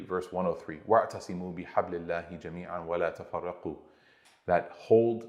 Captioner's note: Arabic